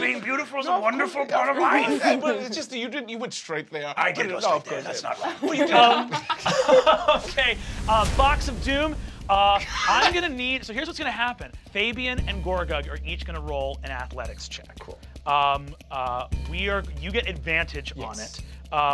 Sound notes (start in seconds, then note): 4.7 laughing; 4.8 chuckles